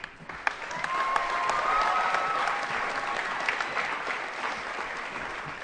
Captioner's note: applause